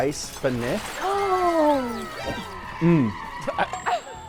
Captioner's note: ice tinkling